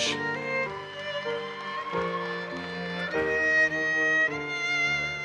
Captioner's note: audience cheers and applauses